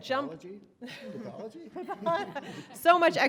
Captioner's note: laughing